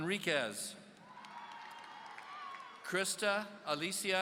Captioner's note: audience cheering